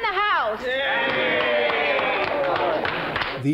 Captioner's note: patrons cheering